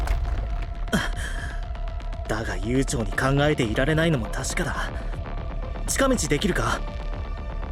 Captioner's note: sigh